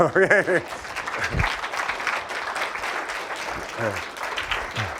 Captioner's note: applause; laughs